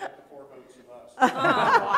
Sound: laughter

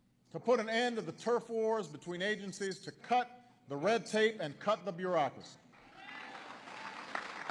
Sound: applause

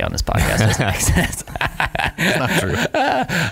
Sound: laughing

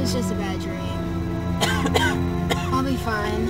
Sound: coughing

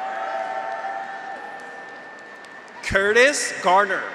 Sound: graduates cheer; audience applauds

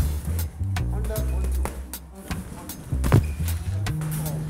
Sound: murmuring

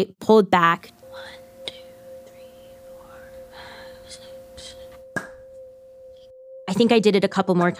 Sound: pop!

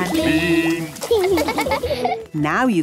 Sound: laughing

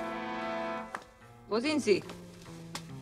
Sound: in German

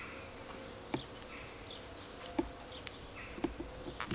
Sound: birds chirping

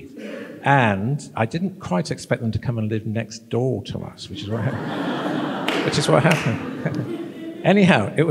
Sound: laughter

